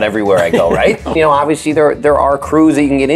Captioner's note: laughs